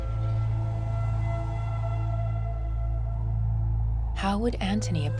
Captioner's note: wind whistling